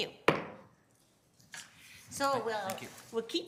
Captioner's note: gavel thumps